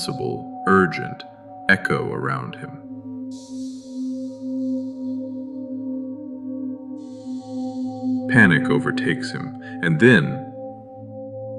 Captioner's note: whispering